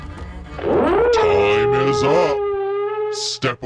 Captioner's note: horn blowing